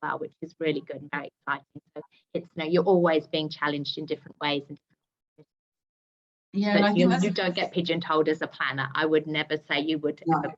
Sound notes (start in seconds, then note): 5.0 speaking faintly